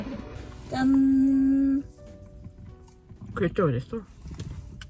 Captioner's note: laughing